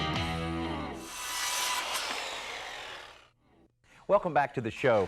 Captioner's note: saw sawing